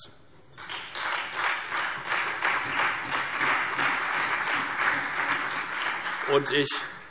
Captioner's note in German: Beifall Freie Demokraten, CDU und vereinzelt SPD